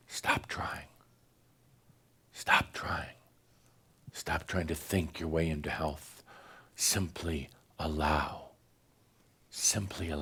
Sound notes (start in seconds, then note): none